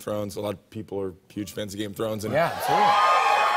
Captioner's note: cheers and applause